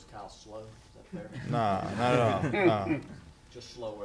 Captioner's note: background laughter